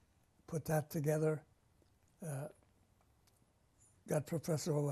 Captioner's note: pauses for 3 seconds